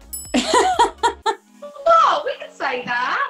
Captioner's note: laughs